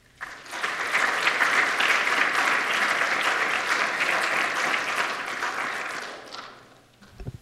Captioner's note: applause